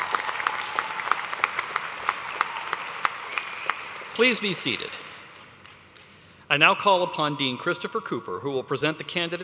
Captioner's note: cheers and applause